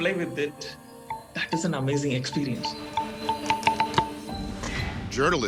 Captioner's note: pillar ringing